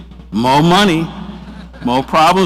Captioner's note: audience laughs